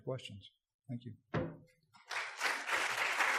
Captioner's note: applause